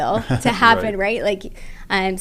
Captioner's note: laugh